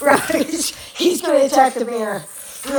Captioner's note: laughs